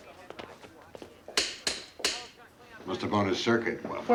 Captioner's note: clicking switches